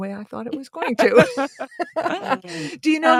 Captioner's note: laughing